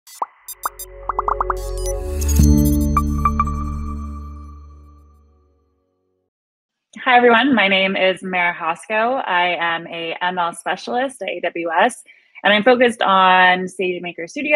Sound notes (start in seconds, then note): 0.1 pops and beeps; 0.1 light electronic music